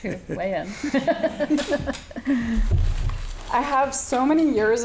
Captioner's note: laughing